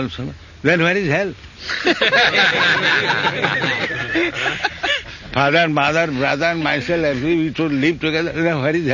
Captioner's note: laughter